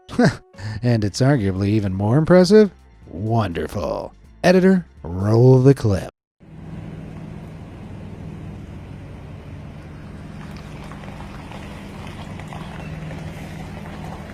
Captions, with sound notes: (laughs) And it's arguably even more impressive? Wonderful. Editor, roll the clip. (truck engine whirring) (truck tires crunching)